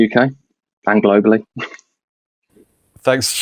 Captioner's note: laughs